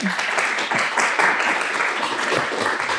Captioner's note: applause